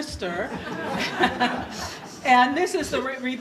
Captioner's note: audience laughter